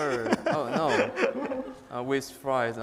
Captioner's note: laughing